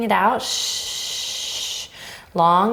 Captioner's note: shushing